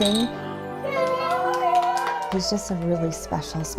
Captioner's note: cheers